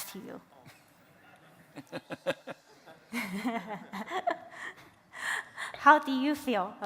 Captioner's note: laughter